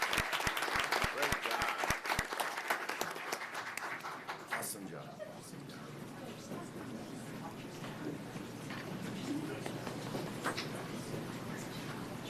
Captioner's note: applause